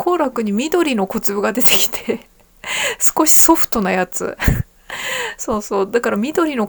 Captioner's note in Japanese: 笑い